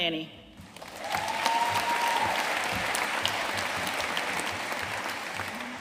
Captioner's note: audience cheering and applauding